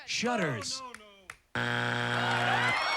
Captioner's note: buzzer; applause